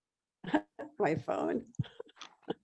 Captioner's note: chuckles